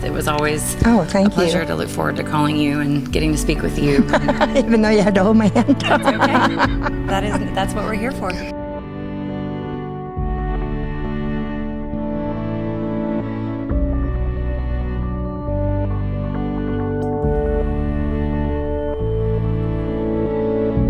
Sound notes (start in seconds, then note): 3.7 laughing; 10.1 light music